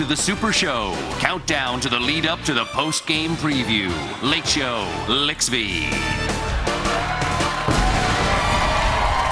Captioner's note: cheers and applause